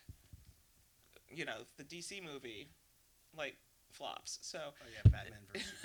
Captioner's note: laughs